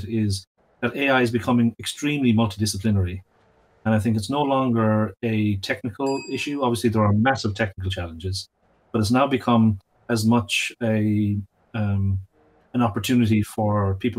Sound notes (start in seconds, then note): 6.0 bell dings